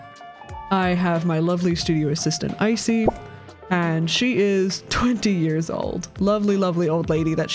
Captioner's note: pop